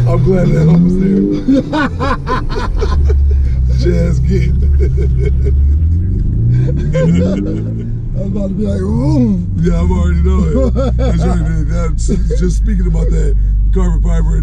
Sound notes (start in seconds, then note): 1.6 laughing; 5.0 laughing